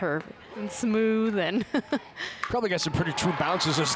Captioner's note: chuckles